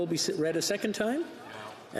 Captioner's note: speaking French